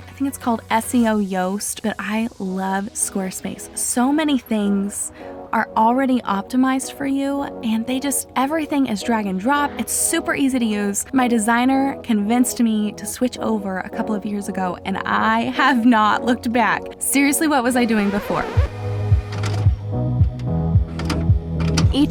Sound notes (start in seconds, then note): 17.6 record scratches; 19.7 soft music